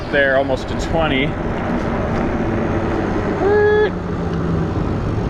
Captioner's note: wheels whirring